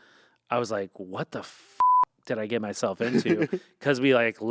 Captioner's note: beep